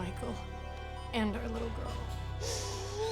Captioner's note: deep, wracking wheezing